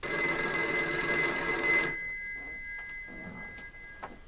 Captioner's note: phone ringing